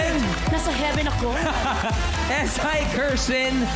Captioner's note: robi laughs